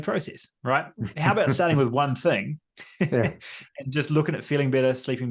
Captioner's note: laughs